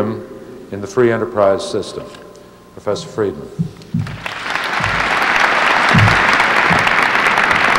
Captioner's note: applause